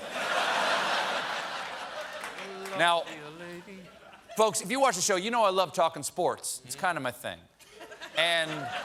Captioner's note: laughter